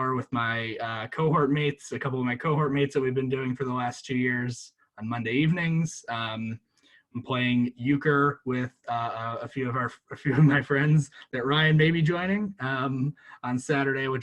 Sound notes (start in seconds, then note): 10.2 laughs